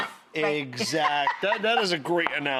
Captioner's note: laughs